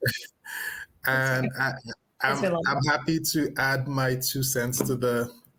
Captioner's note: laughing